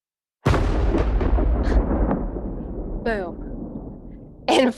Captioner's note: storm and thunder noises